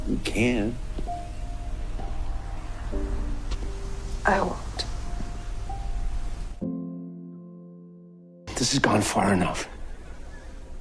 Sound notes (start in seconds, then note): 8.8 voiceover